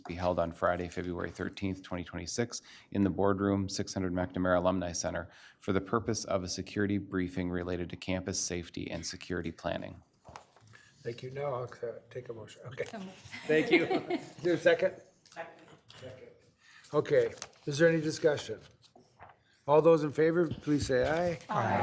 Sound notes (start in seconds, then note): 13.3 laughs